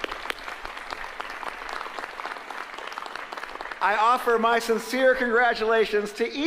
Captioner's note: applause